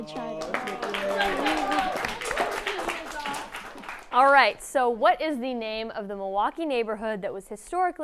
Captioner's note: applause